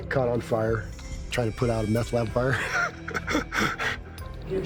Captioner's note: laughing